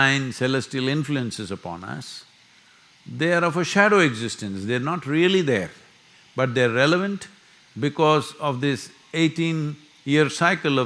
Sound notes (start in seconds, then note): none